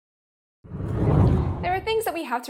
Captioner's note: air whooshes